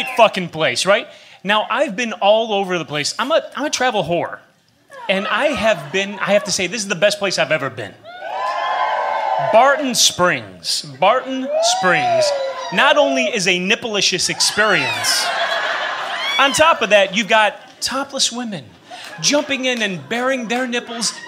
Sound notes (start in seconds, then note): 8.0 cheering; 14.8 laughter